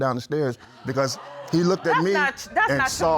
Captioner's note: audience gasps